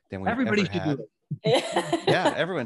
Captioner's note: laughs